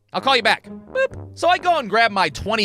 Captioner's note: boop!